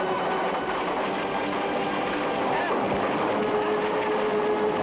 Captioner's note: flames crackle